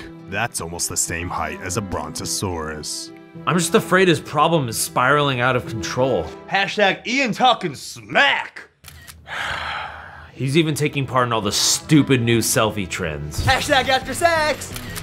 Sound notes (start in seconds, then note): 8.8 camera snaps; 9.0 sighing